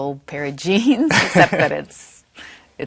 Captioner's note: laughing